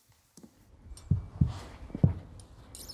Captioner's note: dull knocking